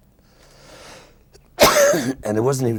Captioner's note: coughing